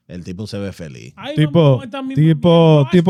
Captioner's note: speaking In Foreign Language